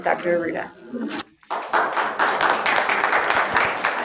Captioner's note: applause